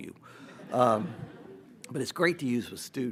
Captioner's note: audience laughs